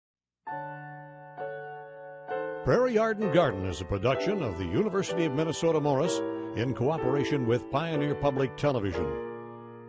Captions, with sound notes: - [Voiceover] Prairie Yard and Garden is a production of the University of Minnesota Morris in cooperation with Pioneer Public Television.